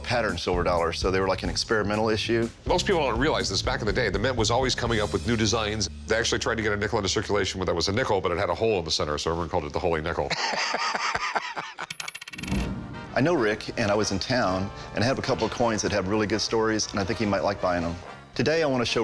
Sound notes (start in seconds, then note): 10.2 laughter; 11.7 change clinking